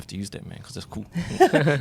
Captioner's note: laughs